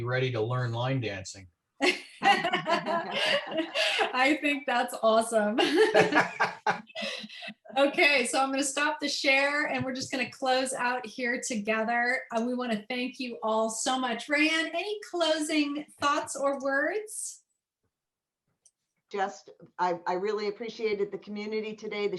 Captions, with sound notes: ready to learn line dancing. [LAUGHTER] I think that's awesome. I'm going to stop the share and we're just going to close out here together and we want to thank you all so much. Rae Ann any closing thoughts or words? Just I really appreciated the community today,